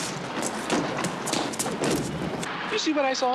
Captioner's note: footsteps shuffle; door slams open; body thuds